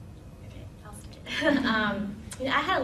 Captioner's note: laughter